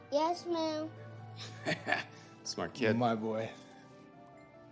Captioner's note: chuckles